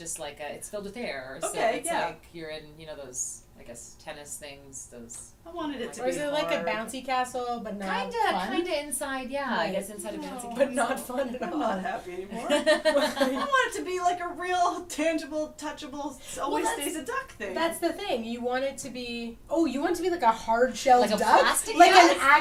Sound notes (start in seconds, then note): 12.3 laughter